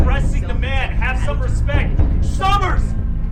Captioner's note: Jim mutters menacingly